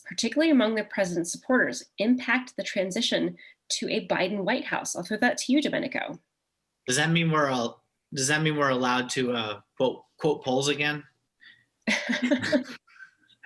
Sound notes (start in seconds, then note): 11.8 laughter; 11.9 chuckle